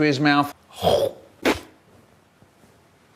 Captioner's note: pfft